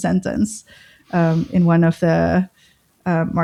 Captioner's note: uh